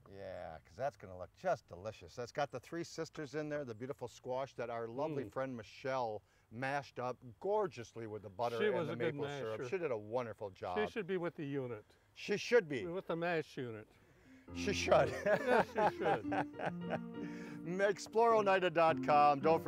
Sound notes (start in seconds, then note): 14.8 laughing